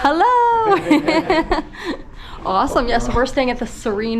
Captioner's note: laughs